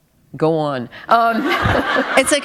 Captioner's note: laughter